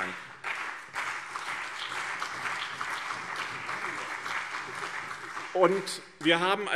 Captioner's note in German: Beifall BÜNDNIS 90/DIE GRÜNEN und CDU